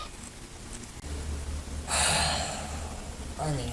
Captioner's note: sighs